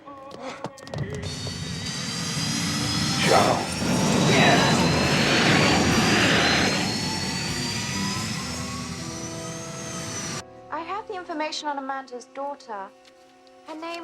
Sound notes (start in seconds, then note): 1.3 motor whining